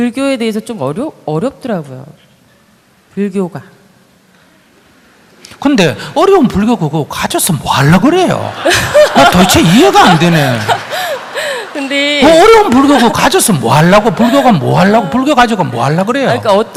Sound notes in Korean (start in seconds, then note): 8.0 청중 웃음